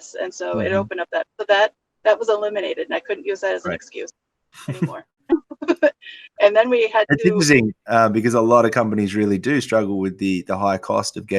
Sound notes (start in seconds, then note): 4.6 laughs